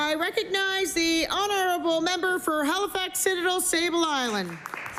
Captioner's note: applause